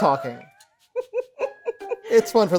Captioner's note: laughing